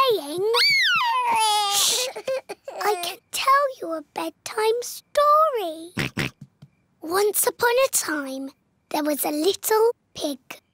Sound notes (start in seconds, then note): 0.6 cries; 5.7 oinks